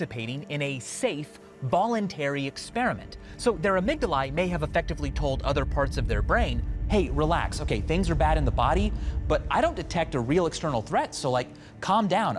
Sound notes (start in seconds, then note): none